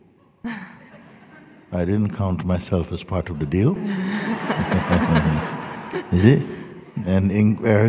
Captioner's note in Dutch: gelach